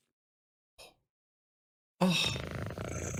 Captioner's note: gasp